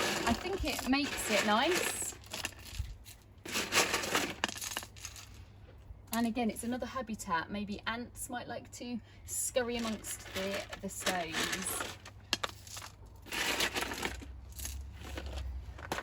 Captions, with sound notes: I think it makes it nice. (stones clattering) And again, it's another habitat, maybe ants might like to scurry amongst the stones. (stones scattering)